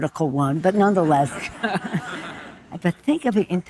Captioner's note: audience laughing